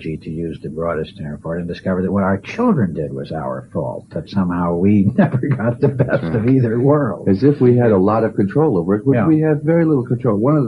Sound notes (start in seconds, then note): 7.0 laughs